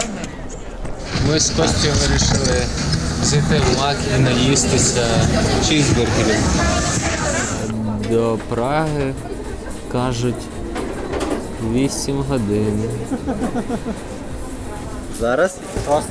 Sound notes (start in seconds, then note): 8.1 drawling; 12.1 is whimpering